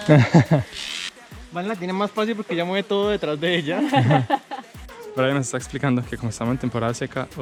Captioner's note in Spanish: risas